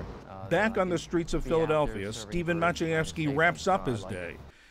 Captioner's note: voice-over